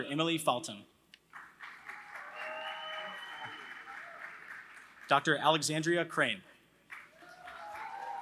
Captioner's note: applause